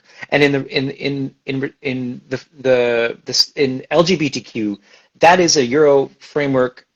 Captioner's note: stammers